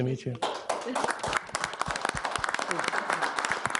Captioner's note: all clapping